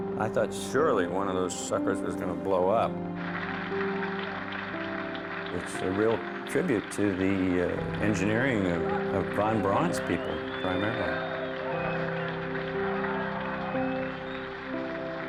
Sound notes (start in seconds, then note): 3.1 applause; 11.2 applause continues